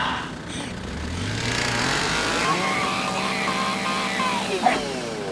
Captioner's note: Eddie shrieking; chainsaw buzzing